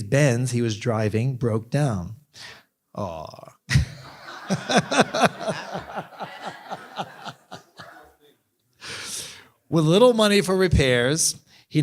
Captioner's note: laughter